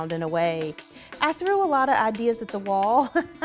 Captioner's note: chuckles